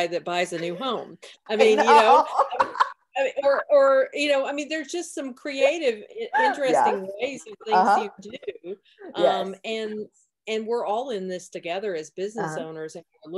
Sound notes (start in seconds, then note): 1.6 laughs